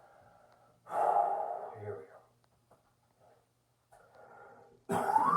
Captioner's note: exhales; coughs